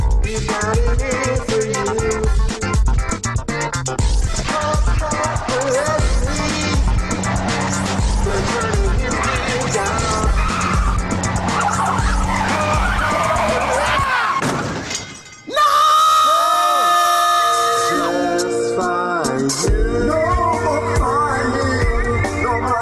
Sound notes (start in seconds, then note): 14.5 car crashes; 15.7 shouts loudly